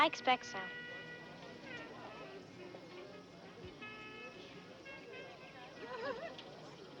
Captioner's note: people chattering; jazzy music